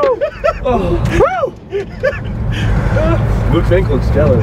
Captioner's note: guys laugh